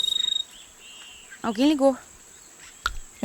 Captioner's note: cell phone ringing